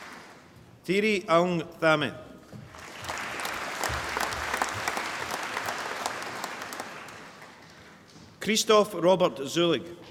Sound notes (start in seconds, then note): 2.7 applause